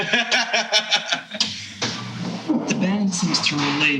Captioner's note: laughing